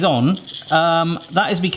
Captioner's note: seeds rattling